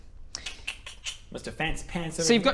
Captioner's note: know-it-all noises